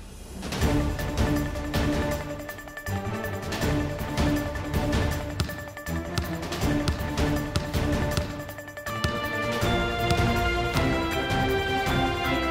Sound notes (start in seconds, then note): 0.3 pensive music playing; 6.1 dribbling basketball